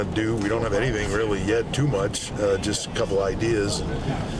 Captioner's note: none